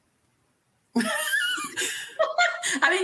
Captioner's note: laughter